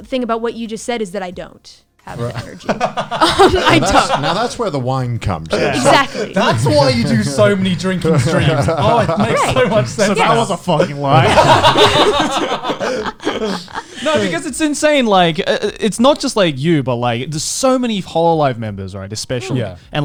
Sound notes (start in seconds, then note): 2.0 laughs; 11.6 laughs